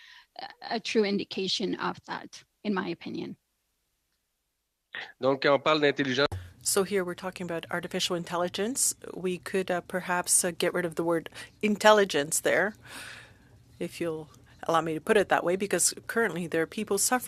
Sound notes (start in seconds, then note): 13.0 speaking French